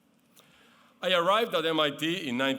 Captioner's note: none